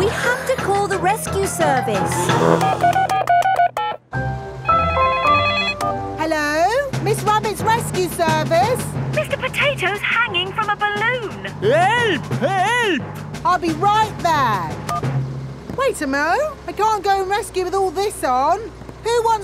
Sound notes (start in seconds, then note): 2.1 beeping; 4.7 phone ringing